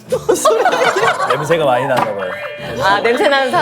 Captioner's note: laughing